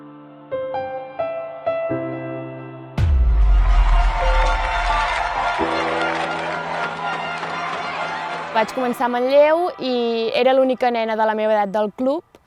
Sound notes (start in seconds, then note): 3.2 people cheering